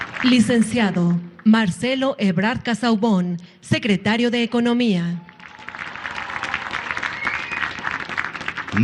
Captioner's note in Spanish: aplausos